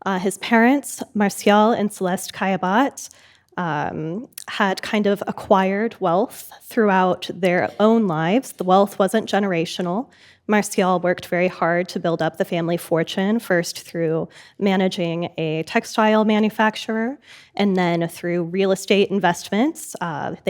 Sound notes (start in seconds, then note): none